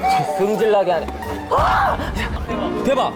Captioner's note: screaming